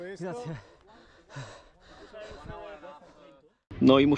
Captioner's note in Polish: dyszenie